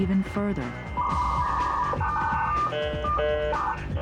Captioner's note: modem noise